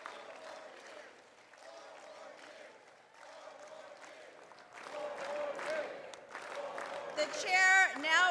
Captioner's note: cheering